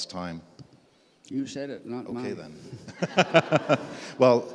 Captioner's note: laughs